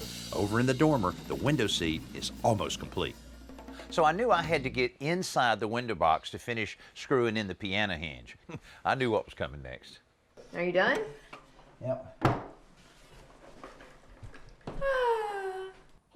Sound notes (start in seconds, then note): 7.6 chuckles; 9.4 normal voice